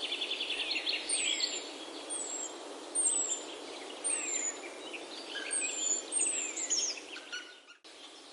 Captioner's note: birds chirping